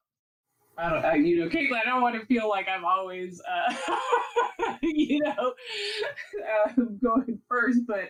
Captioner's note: laughs